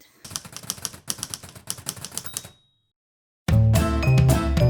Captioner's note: typewriter sound